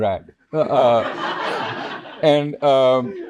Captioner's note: audience laughing